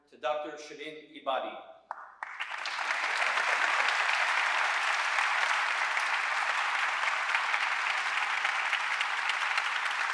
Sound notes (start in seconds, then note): 3.9 audience applauding